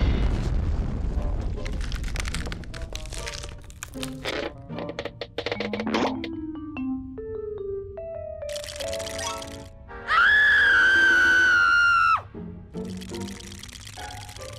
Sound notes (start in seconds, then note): 8.5 teeth chattering; 10.0 screams; 12.9 shivering